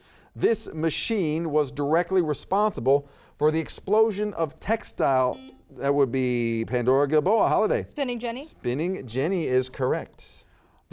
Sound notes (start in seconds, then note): 5.3 buzzer beeps